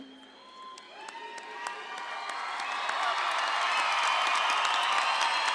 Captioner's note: audience clapping and cheering